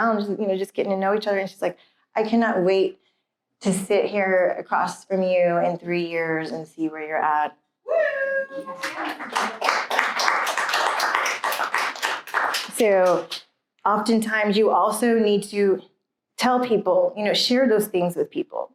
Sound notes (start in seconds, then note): 8.6 applause